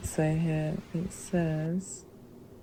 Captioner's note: rain